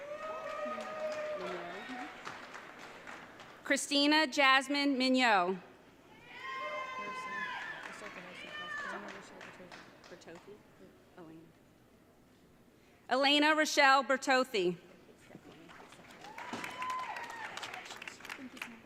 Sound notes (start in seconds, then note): 0.0 audience cheering; 6.2 audience cheering